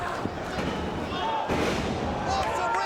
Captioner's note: Mike Awesome thuds